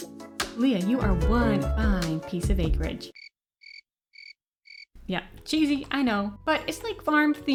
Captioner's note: crickets